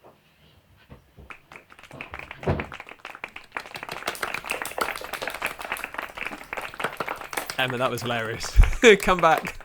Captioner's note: applause